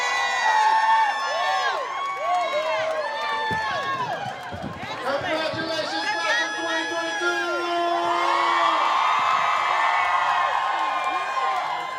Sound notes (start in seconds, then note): 0.2 cheering; 8.1 shouting